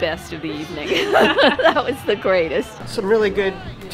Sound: laughter

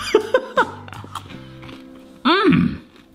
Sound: laughs; chip crunching

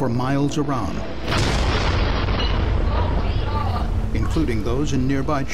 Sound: sound of explosion

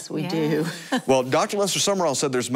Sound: chuckles

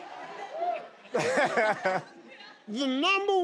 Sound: laughs

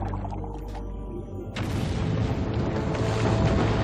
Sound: rumbling

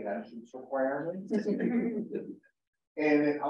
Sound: laughter

